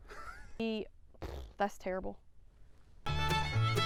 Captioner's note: laughs; blowing a raspberry; upbeat music